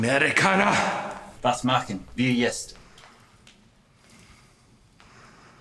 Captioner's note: whip cracking; officer speaking German